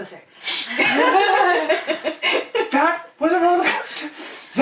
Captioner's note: laughter